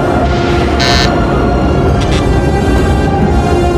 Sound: buzzers sounding

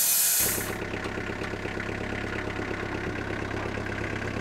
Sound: tractor rumbles

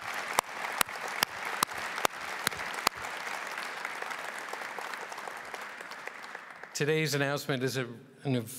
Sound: applause

